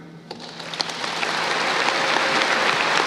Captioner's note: applause